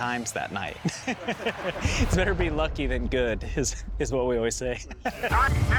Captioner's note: laughs; laughs